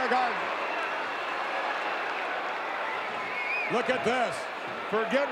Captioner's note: audience cheering